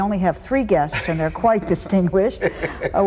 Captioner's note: laughs